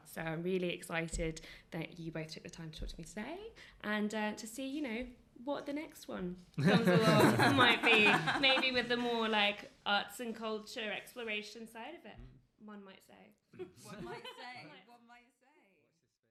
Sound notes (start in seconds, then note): 6.6 laughter; 15.1 laughter